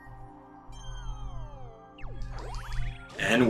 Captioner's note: gaming sounds